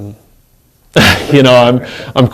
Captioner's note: laughs